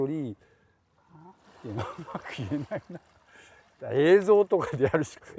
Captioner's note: laugh